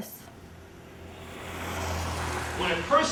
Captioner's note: traffic passing